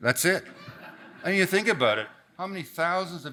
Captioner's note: audience laughs